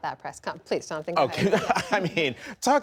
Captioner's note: laughter